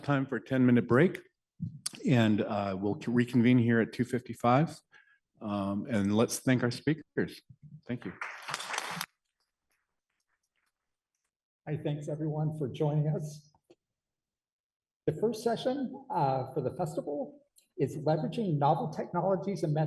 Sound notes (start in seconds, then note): 7.9 applause